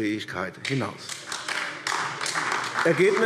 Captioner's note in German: Beifall AfD